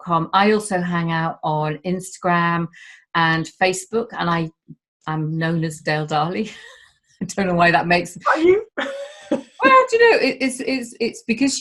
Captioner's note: laughing